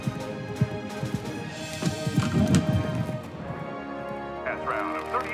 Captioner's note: pole thudding